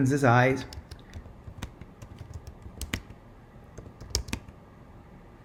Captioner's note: keyboard clacking